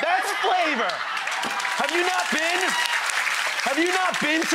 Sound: audience cheers

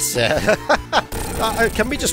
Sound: chuckles

